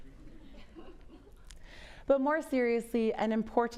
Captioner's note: audience laughs